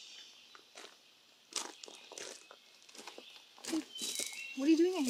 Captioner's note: footsteps crunch